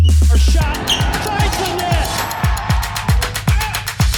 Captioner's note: court squeaking; crowd applauding